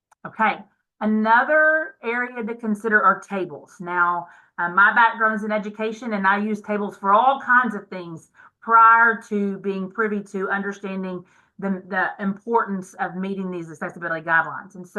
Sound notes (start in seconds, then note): none